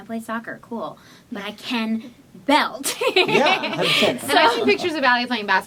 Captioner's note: laughs